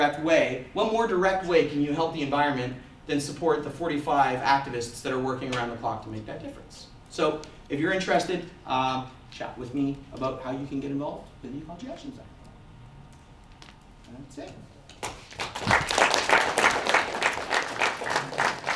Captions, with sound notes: and it's the most direct way, what more direct way can you help the environment than support the 45 activists that are working around the clock to make that difference? So if you are interested, chat with me about how you can get involved in the Ecology Action Centre That's it. [audience applauses]